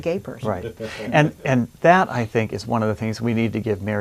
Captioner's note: laughs